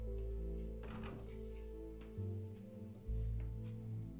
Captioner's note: threatening ambient music; A door opens